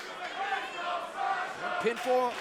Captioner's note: crowd cheering